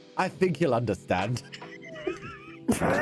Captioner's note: laughter